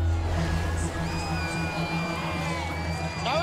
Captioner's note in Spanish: aplausos